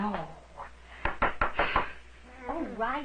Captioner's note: knocking at door